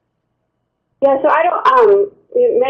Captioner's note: voiceover